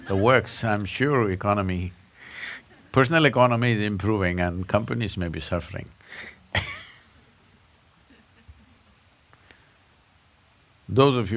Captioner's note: laughs